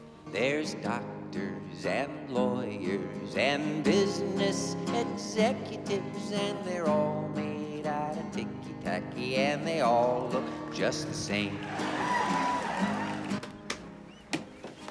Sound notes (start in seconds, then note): 11.2 crowd cheering